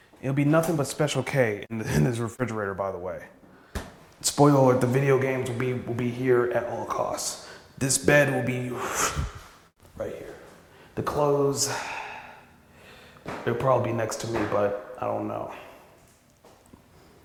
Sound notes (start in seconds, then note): 8.9 woosh sound